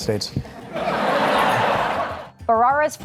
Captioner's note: laughter